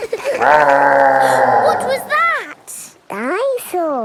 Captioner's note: gasps; laughing; growling